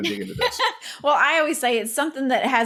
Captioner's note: laughs